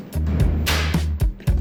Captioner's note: clap